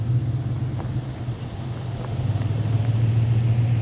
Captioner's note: engine revving